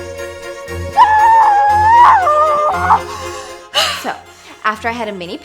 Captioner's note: fast paced violin music; muffled scream